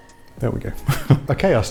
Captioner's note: laughs